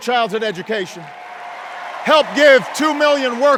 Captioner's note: cheers and applause